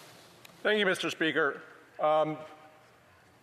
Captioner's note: speaking French